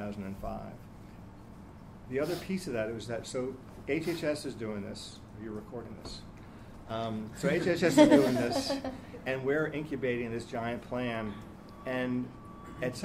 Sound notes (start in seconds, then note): 7.8 laughing